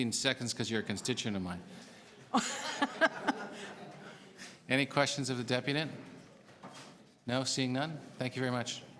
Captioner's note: laughter